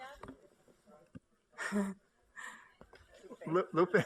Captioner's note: laughter